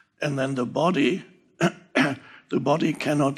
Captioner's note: Eckhart dresându-se glasul